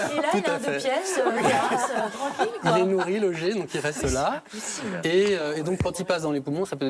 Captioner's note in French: rires